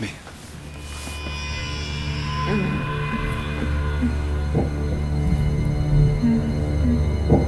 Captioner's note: suspenseful music; Katie moaning